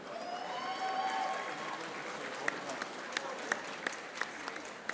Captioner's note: audience applauding